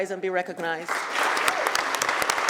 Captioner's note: applause